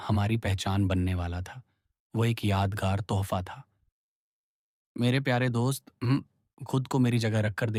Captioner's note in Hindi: गला साफ़ करने की आवाज़